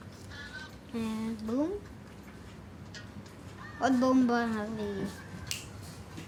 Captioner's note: speaking foreign language